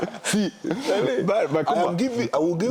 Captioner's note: gelächter